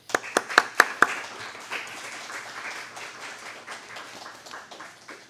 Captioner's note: and audience applauding